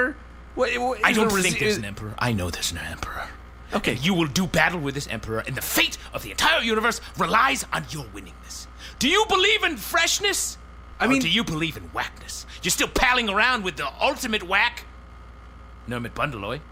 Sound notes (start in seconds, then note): 8.5 shouting